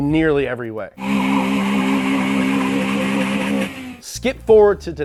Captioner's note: engine revving